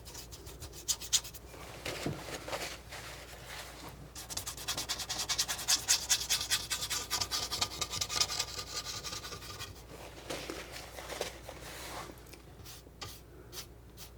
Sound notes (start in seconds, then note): 1.4 scratching